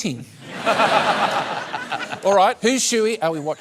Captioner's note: laughter